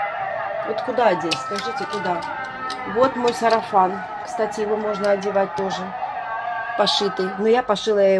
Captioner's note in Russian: ликование